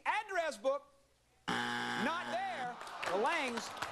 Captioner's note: buzzer